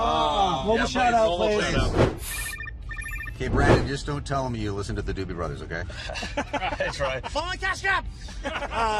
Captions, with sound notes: Ugh! Mobile Shout Out, please. [Phone ringing] Okay, Brendan, just don't tell them you listen to the Doobie Brothers, okay? [Laughing] I'll try. I'm on Cash Cab!